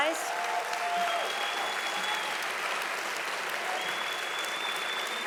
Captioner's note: audience applauding loudly